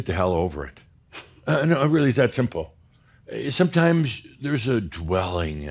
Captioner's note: snickers